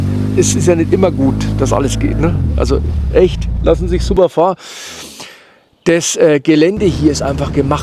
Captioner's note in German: japst